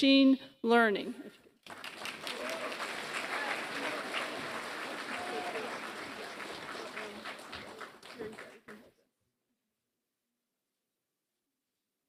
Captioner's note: applause